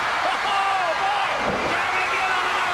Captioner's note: crowd cheering